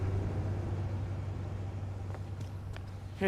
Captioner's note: none